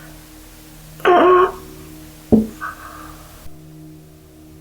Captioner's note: expels last breath